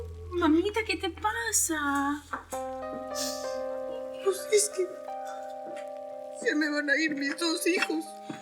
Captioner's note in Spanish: Sollozos